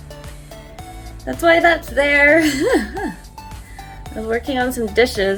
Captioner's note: laughs